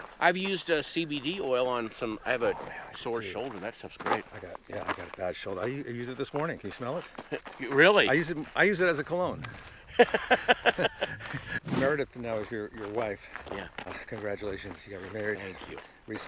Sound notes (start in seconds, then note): 9.5 Patton laughing